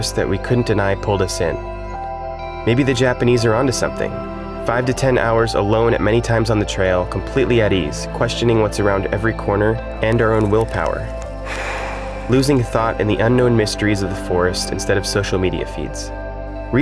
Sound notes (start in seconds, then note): 11.2 sighs; 11.4 rain falling